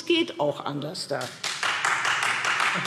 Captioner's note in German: Beifall Freie Demokraten